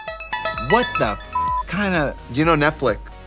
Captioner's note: beeping